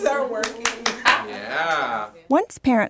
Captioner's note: cheers; voiceover